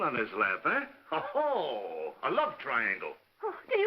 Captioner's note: laughs